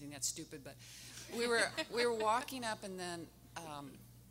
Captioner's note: everyone laughing